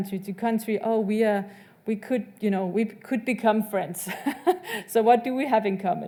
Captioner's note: laughs